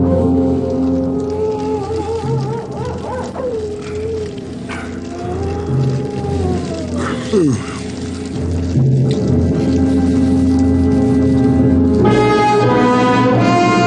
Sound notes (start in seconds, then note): 0.5 animal howling in distance; 6.8 yawns